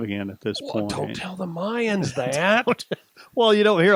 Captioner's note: chuckles